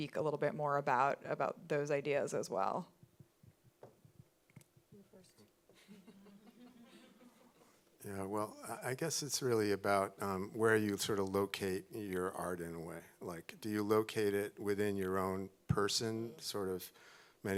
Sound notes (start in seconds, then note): 5.8 audience chuckling